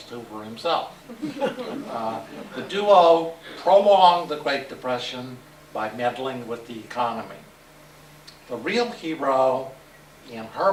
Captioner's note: laughter